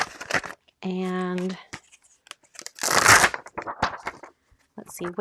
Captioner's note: plastic whooshing